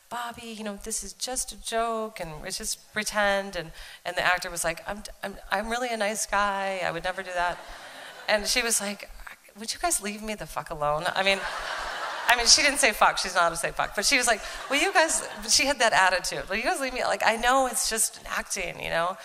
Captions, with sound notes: "Bobbi, this is just a joke and it's just pretend." And the actor was like, "I'm really a nice guy." "I would never do that." And she was like, "would you guys leave me the fuck alone?" I mean, she didn't say "fuck." She's not allowed to say "fuck." [Laughter.] But she was like, "will you guys" - but she had that attitude. "Will you guys leave me? Like, I know it's just acting."